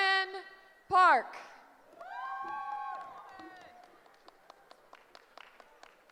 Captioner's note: cheering